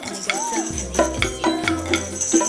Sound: ding dong

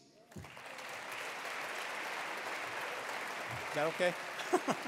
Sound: attendees applauding

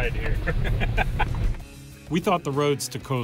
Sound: laughs

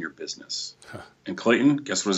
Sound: chuckles

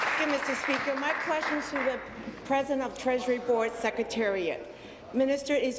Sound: applause

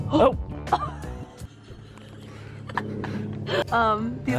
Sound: laughs

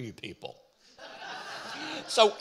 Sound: audience laughing

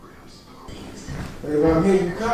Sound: TV chattering

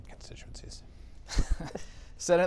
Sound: laughter

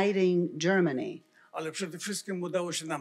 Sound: foreign language

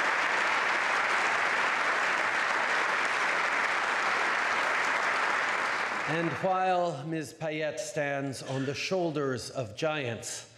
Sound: applause

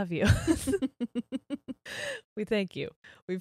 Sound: both laugh

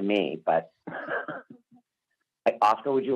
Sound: laughter

